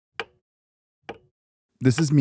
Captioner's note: clock clacking